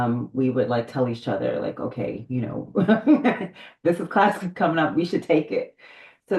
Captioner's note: laughs